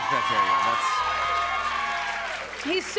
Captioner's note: cheers and applause